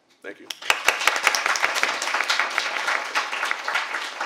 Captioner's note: applause